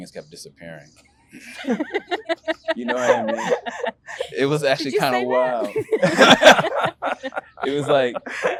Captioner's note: interviewees laugh